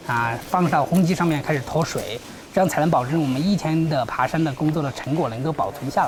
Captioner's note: speaking in foreign language